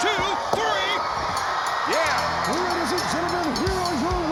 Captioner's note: bell rings